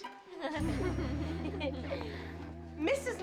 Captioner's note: giggling